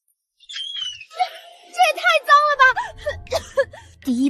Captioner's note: cough